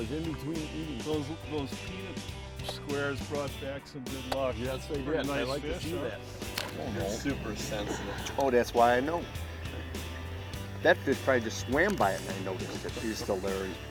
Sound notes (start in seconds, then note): 8.7 voiceover